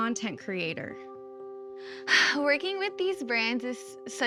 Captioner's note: sighs